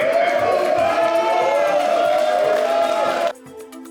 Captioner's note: cheering